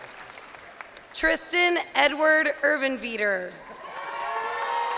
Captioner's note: crowd cheering